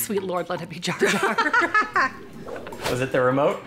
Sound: parents laugh

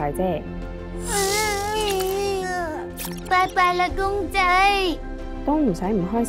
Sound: sobs

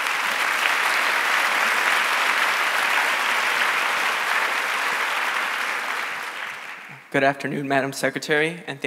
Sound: applause

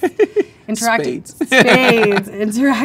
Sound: man laughs

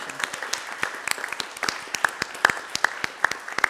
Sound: applause

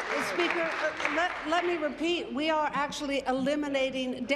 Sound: applause

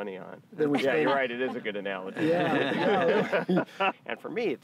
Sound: laughing

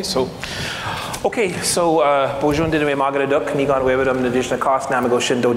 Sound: foreign speaking

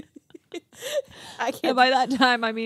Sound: group laughs

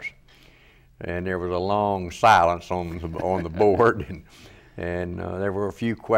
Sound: laughs

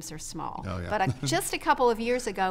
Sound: laughs

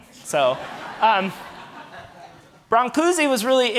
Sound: audience laughing

